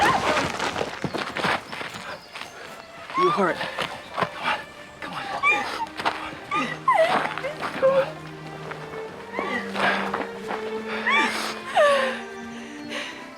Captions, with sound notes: (Fancy shrieks) Are you hurt? Come on. (Fancy sobbing)